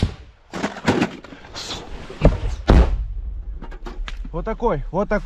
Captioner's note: bullets hit the trench parapet